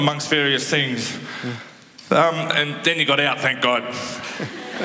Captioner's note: laughter